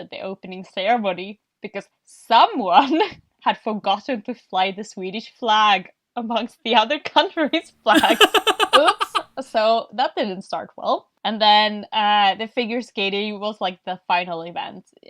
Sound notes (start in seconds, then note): 7.9 laughs